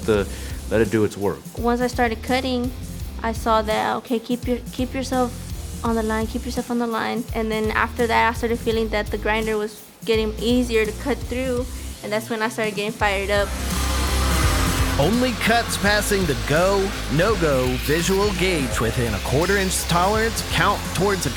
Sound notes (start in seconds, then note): 13.5 grinder whirring